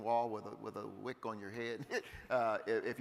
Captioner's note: chuckles